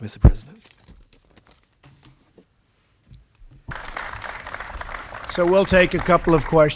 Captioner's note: applause